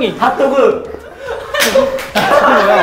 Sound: haha

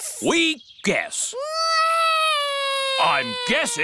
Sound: alexander wails

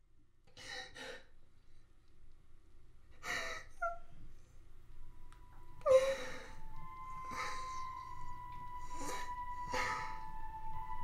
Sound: crying and heavy breathing

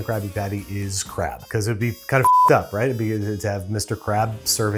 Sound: beep

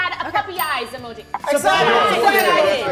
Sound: bell dings

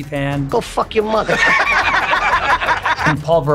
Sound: they laugh

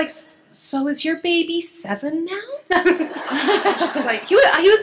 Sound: laughs

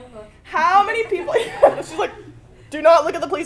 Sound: laugh

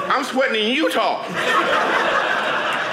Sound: audience laughing

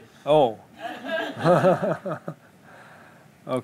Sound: laughter

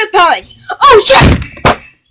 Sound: bang!

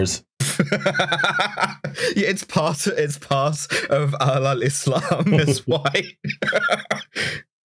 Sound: laughter

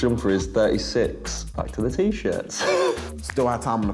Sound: laughs

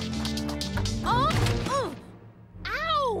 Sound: groans

